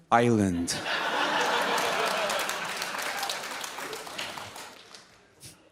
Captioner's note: audience laughs